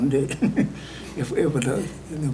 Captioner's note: laughs